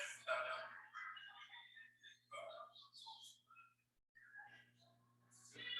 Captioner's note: people chattering indistinctly